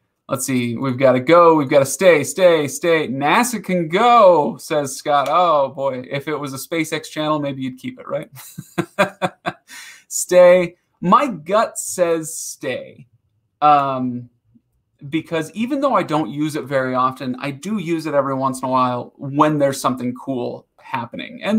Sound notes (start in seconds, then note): 8.3 laughing